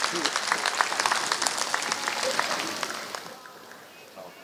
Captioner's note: applause